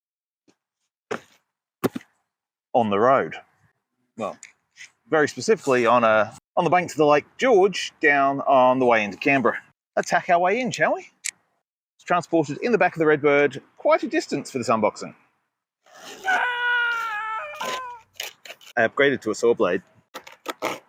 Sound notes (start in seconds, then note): 16.0 screaming sound